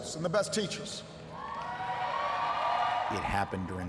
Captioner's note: audience cheers